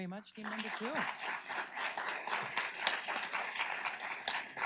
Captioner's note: audience applauds